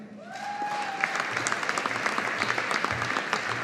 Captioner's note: audience applauding